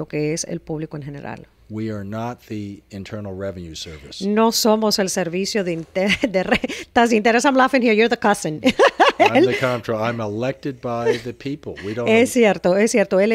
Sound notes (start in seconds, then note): 1.9 Hablando ingl\s